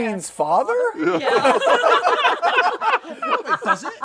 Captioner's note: laughter